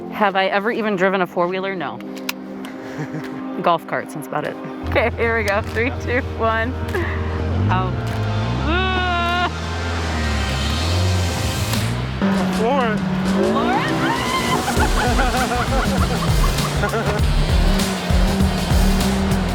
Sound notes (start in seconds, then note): 13.5 screams; 15.2 laughs